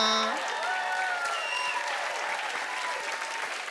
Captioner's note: cheers and applause